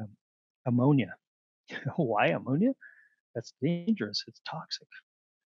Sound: laughter

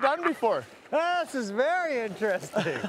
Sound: laughing

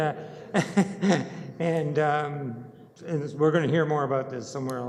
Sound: laughs

